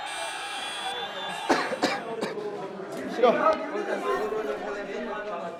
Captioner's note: coughing